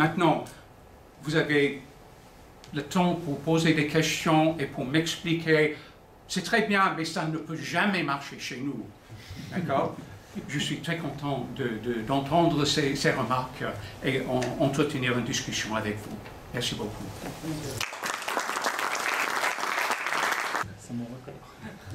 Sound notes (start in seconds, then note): 9.4 laughter; 17.7 applause